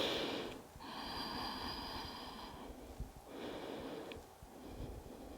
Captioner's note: inhaling and exhaling